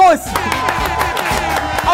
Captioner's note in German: Jubel, Applaus